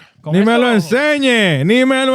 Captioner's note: non-english Speech